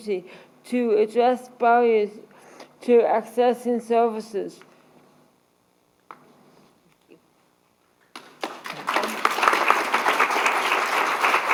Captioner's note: applause